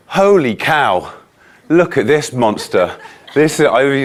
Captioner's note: audience laughing